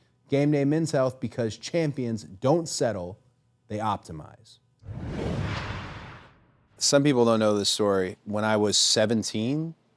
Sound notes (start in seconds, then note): 4.8 logo whooshes